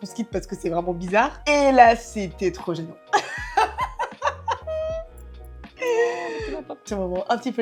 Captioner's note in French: Rires